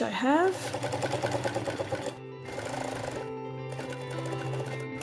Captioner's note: sewing machine noise